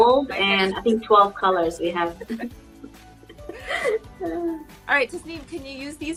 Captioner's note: both laughing